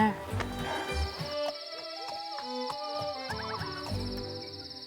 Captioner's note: animals calling; crickets chirping